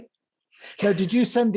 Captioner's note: laughs